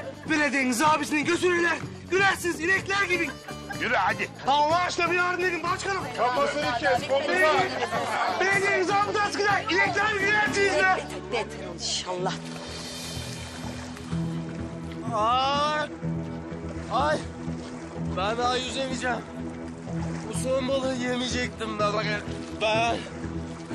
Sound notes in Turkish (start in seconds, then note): 6.6 Kalabalık sesi yankılanır